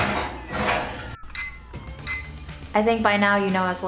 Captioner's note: rattling sound; beeping sound